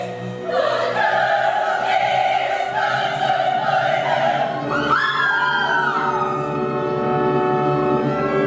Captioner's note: they scream!